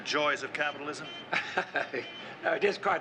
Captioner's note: chuckles